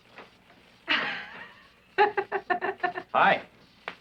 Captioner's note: giggling